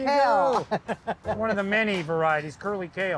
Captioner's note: chuckling